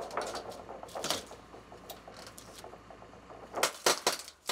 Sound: wood crunches; wood crunching

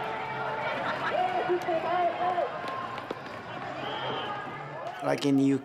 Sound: people shouting in foreign language

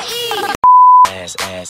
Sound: beep

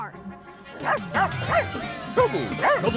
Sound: dog barking

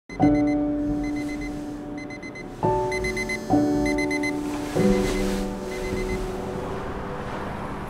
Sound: alarm beeping

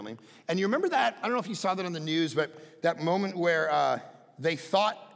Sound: none

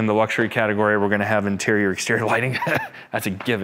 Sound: laughs

